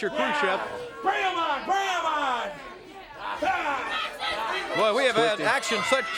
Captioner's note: crowd chatter